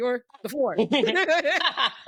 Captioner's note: laughing